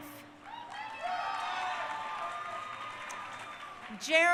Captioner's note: crowd cheering